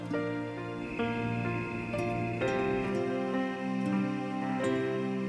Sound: crickets chirping

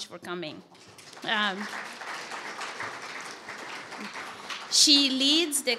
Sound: audience applauding

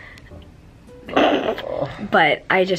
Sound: snort

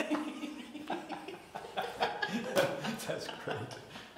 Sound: laughing

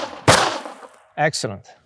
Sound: gunfire popping

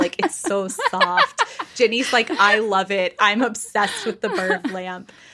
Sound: laughing

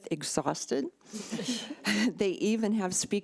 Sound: people chuckling

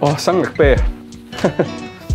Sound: chuckles

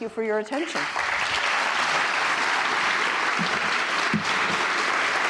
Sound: audience applauding

